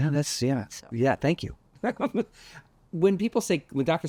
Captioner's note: laughs